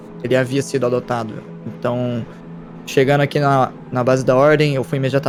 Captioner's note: none